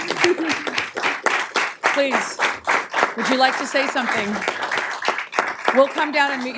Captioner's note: applause